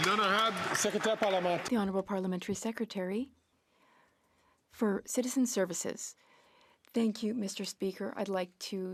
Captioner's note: some Applause